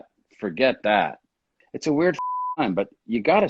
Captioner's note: beep